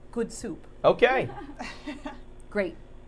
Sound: laughing

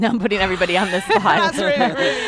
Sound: panel laughing

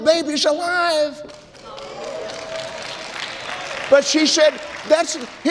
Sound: applauds

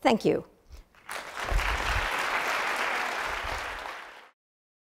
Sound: applause

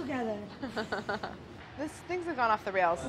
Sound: laughs

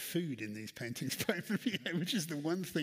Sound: laughs

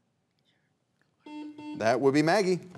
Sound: faintly speaking

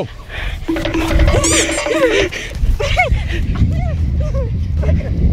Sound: timer counting down

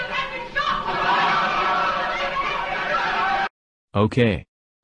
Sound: audience screaming

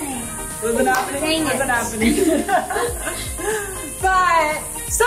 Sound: laughs

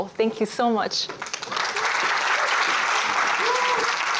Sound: applause

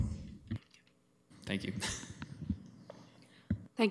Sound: chuckling

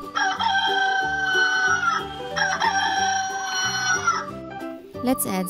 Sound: rooster crows

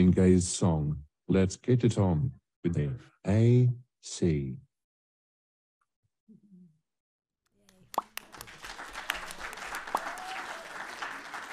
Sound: applause

